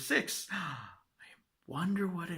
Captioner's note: gasp